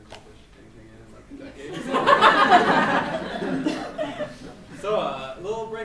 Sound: laughs

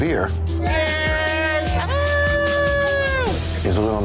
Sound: cheering

